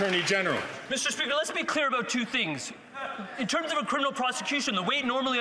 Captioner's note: some Applause